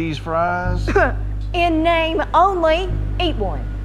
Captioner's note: scoffing